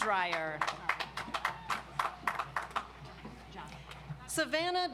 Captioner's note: audience applauds